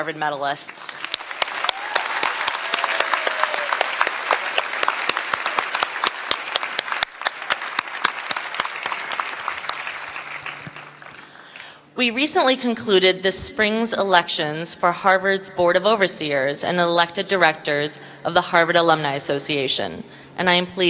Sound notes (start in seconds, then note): 6.0 applause